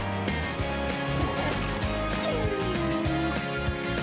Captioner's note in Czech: psí štěkání